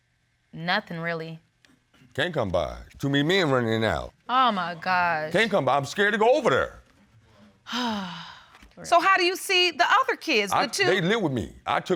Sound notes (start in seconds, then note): 7.6 sighs